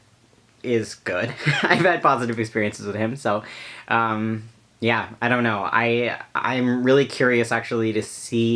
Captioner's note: laughs